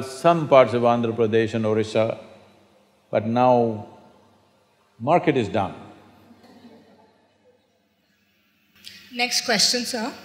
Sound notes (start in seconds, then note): 6.2 few Laugh